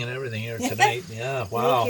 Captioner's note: laughing